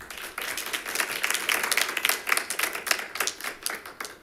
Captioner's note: members clapping